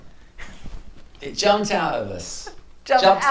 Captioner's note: laughs